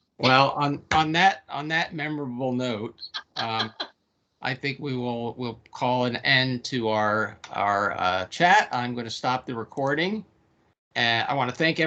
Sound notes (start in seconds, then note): 3.2 laughing